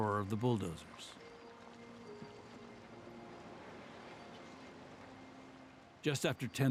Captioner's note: bulldozers scraping against earth